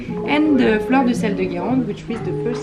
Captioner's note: speaks in foreign language